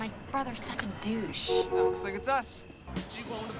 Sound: car honking

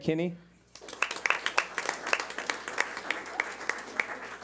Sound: clapping

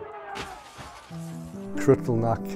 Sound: glass shatters

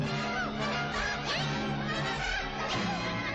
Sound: squeaking

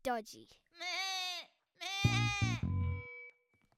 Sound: upset bleatinG

